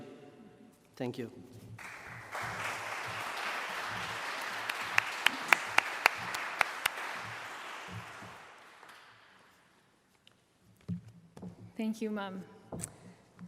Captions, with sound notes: Thank you. [Applause] Thank you mom,